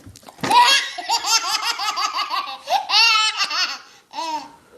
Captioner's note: baby laughing hysterically